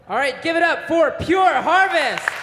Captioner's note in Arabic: تصفيق